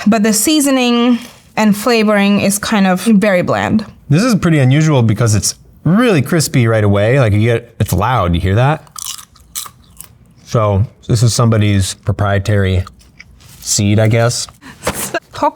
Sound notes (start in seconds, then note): 8.8 food crunching